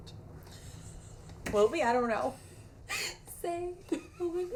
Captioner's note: laughing